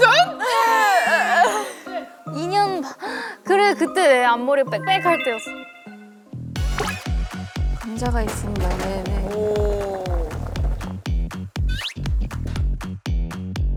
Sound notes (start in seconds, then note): 11.6 slurp